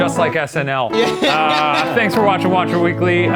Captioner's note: laughs